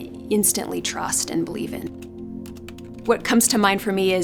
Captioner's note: typing